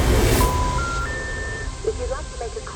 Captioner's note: phone beeps